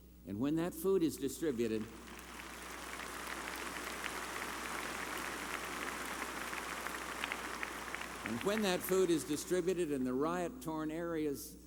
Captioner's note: applause